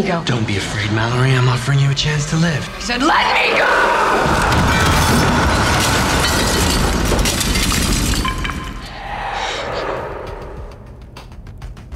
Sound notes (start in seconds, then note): 4.5 crashing